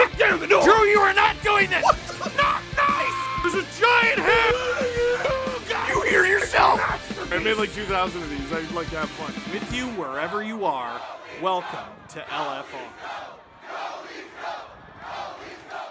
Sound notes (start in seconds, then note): 6.3 Harry potter screaming; 6.3 screaming